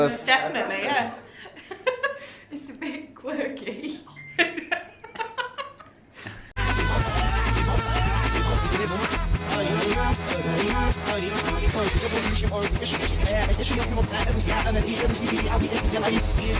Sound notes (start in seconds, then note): 6.6 music playing in reverse; 6.8 laughs